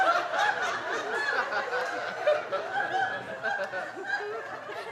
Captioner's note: audience laughing